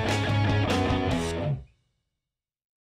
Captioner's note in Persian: سکوت